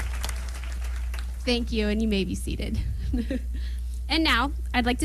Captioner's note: applause